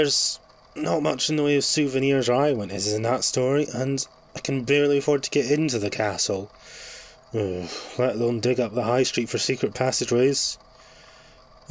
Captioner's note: sigh